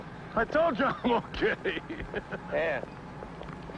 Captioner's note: laughs